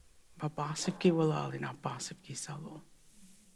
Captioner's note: In Mi’kmaq